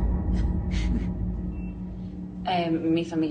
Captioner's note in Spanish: Risas